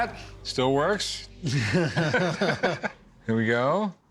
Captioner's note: both chuckle